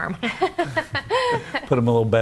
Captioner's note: group laughs